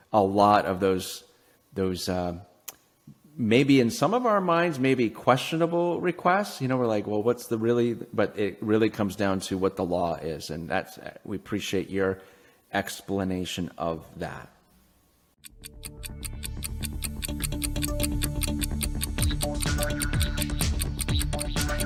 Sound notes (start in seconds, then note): 15.4 clock ticking; 15.6 upbeat music